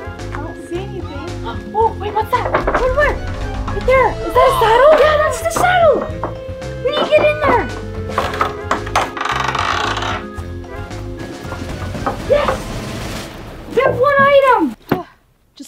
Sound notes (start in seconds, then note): 7.6 wood creaking; 10.5 upbeat music